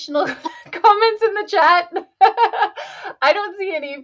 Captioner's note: laughs